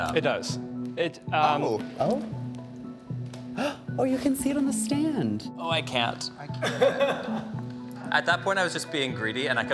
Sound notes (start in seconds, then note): 3.5 gasping; 6.6 chuckling